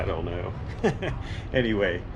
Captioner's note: laughs